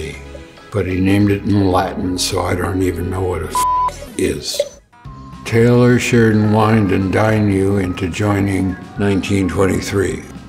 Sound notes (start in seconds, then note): 3.5 beep